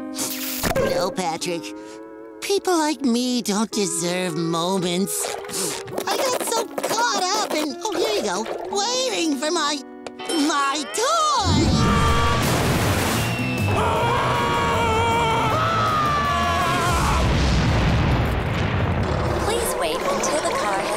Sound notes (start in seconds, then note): 11.4 screaming; 13.6 screaming